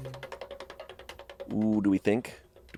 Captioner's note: wheel clicking